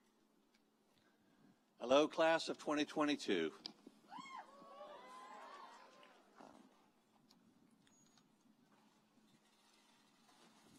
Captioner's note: applause